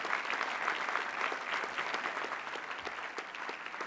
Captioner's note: applause